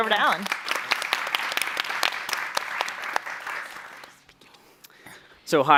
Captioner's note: applause